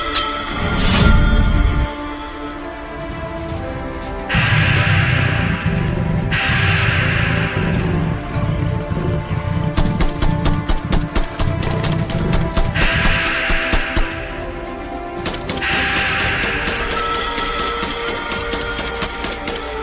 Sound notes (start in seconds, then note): 0.1 stinger clinks; 4.2 beast whirring; 4.3 ground rumbling; 9.8 gun blasting; 12.8 beast whirring; 15.6 beast shrieking